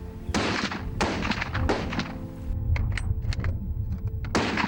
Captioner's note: shooting repeatedly